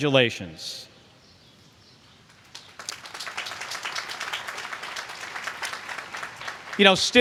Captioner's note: applause